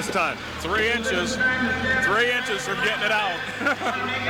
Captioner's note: laughs